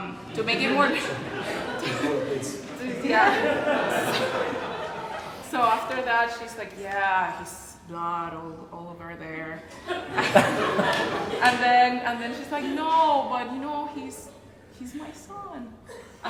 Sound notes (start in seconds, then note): 0.5 audience laughs; 9.7 laughter